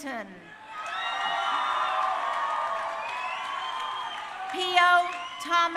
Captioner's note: crowd cheering